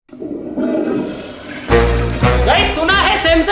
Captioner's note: flush